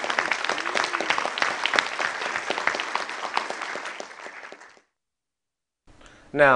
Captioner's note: applause